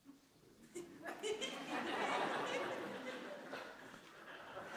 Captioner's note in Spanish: Risas